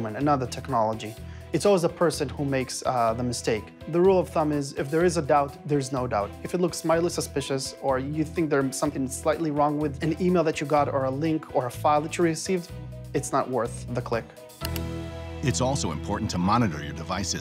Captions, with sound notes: another technology, It's always a person who makes the mistake. The rule of thumb is if there is a doubt, there's no doubt, if it looks mildly suspicious, or you think there's something slightly wrong with an email that you got, or a link, or a file that you received, it's not worth the click. (mouse clicking) (dramatic music) It's also important to monitor your devices,